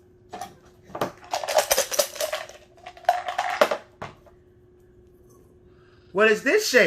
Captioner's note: shape objects cluttering